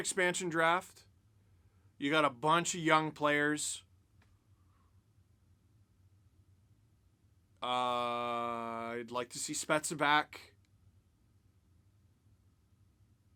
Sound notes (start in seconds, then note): 8.2 beer sip